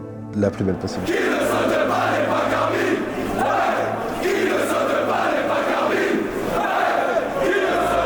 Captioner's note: chanting